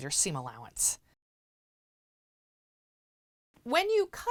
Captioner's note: no Sound Present